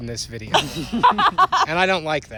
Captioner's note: laughter